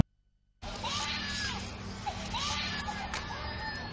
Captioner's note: baby dolls crying